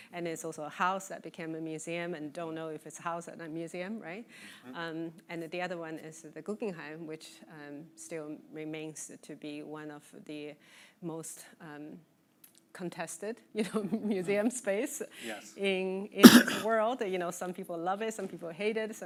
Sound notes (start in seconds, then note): 14.6 laughing